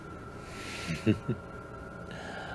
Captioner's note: chuckles